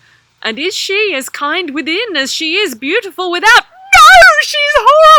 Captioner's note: bride voice